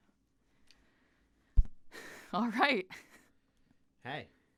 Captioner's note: slightly hysterical but relieved sigh